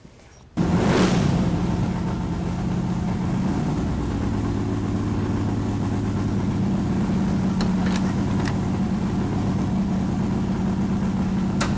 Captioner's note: engine revving